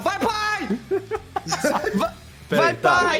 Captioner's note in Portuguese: risadas